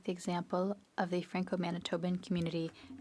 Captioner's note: speaking French